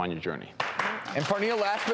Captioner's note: audience applauding